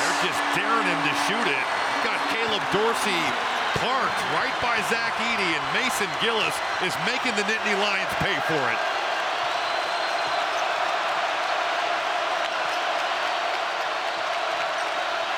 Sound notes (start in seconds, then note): 6.7 cheering